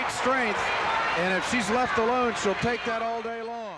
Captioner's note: loud cheering